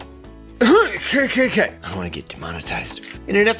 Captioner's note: coughs